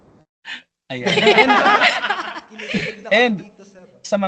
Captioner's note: laughs